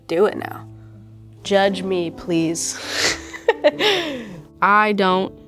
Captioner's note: laughs